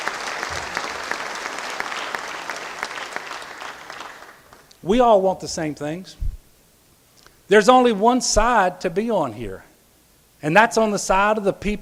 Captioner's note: applause